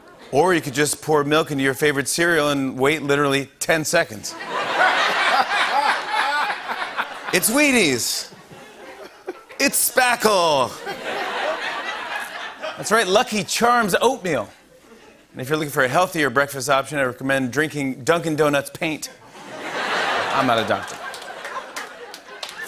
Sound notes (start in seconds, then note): 4.3 laughter; 10.7 laughter; 19.2 laughter